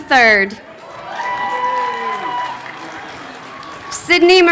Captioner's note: crowd cheering